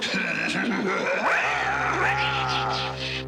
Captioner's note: evil laughter